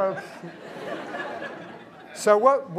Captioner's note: laughter